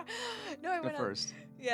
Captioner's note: laughing